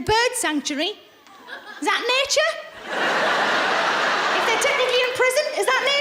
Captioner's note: laughing